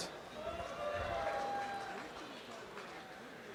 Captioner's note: applause and cheering